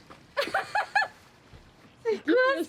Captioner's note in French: rigole